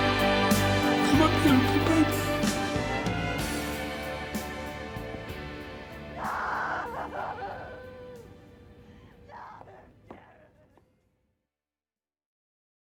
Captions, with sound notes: My beautiful baby. (MUSIC FADES) (WOMAN SCREAMS) No! No! Jeremy! (SILENCE)